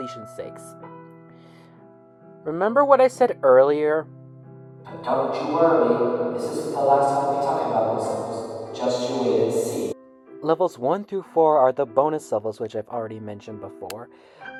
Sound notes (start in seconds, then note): 4.9 echo